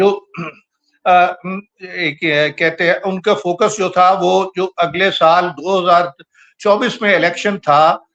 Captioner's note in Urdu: گلا صاف کرتا ہے